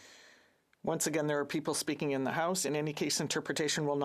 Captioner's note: speaking FRENCH